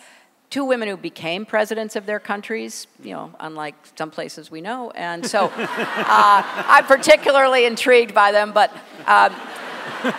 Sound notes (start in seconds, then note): 5.4 laughter